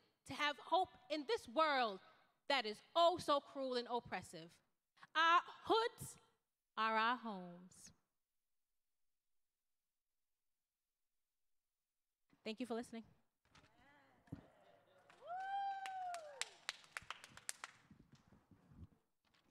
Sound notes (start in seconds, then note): 14.8 crowd cheering